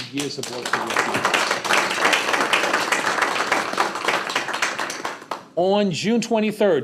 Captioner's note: applause